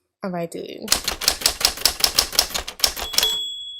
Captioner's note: keyboard clattering; bell rings